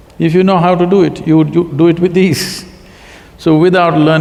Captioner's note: laughs